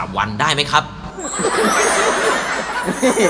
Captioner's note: laughing